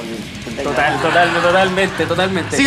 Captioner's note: laughs